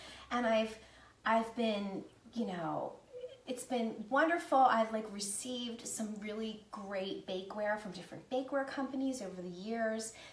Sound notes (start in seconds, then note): none